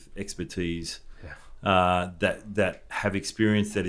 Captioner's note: huffs